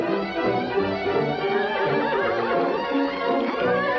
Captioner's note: horse neighs